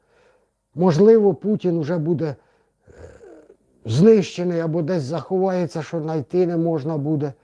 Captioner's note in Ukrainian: сопіння